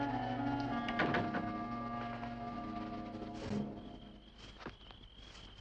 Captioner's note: grilos cantando